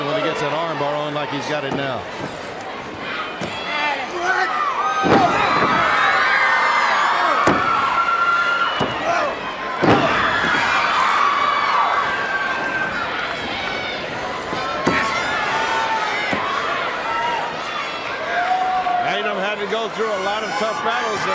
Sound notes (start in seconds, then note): 0.0 crowd chatter; 5.4 crowd cheering; 7.5 crowd chatter